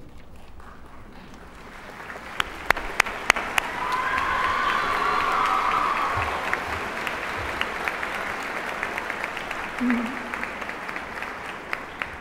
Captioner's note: applause